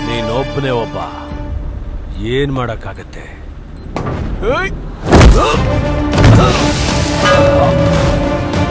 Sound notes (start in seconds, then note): 4.9 kicks